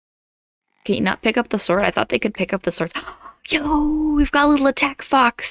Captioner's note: gasp